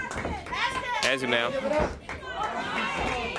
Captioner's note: crowd chatter